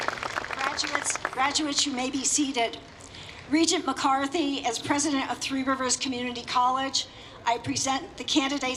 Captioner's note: applause